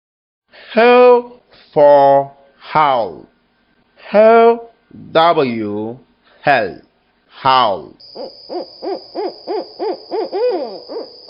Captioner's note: sound: Hoots